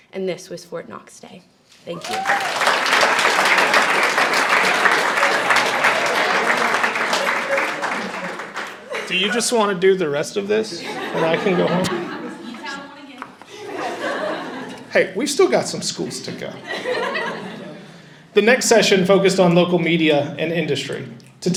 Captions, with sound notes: And this was Fort Knox Day. Thank you. (audience cheers and applauds) - Do you just want to do the rest of this? And I can go home? (laughter) Hey, we've still got some schools to go. The next session focused on local media and industry.